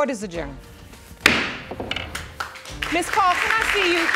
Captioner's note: gavel bangs